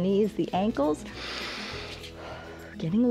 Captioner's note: inhales and exhales